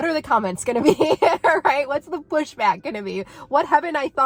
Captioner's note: laughing